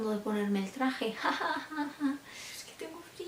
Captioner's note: awkward laugh